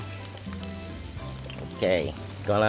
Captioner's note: pan sizzling